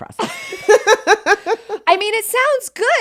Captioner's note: both laugh